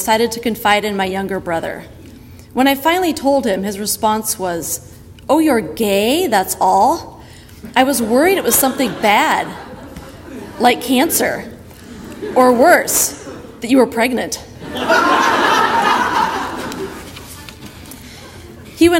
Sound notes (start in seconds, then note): 7.9 audience laughter; 14.6 audience laughter